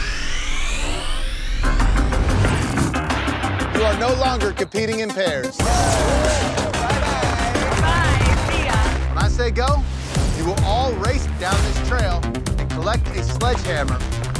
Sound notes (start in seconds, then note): 5.5 clapping and cheering